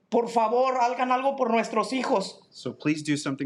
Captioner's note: speaking in Spanish